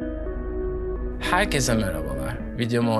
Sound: Turkish

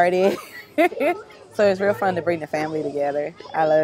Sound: laughs

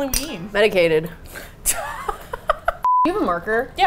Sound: laughs

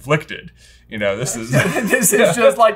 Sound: laughing

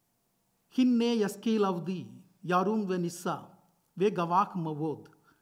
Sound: speaking foreign language

